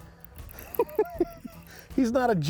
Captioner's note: chuckling